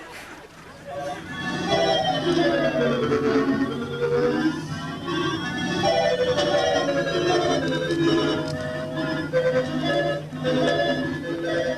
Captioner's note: time travel noises